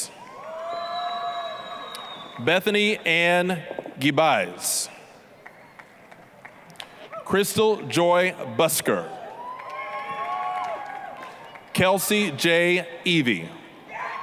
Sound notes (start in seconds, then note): 0.2 applause, cheering; 5.4 applause; 9.2 applause, cheering